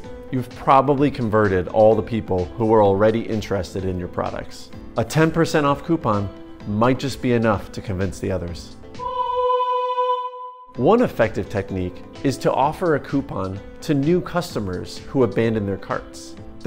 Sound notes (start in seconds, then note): 9.0 angelic humming